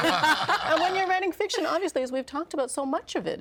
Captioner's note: all laughing